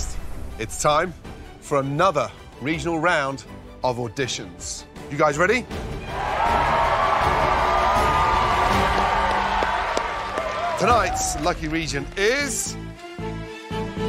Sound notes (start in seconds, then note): 6.0 cheering